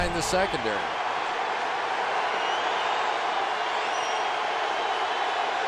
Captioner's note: crowd cheering